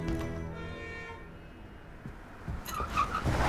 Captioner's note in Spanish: El vehículo toca la bocina